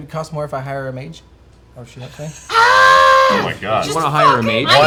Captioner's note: screams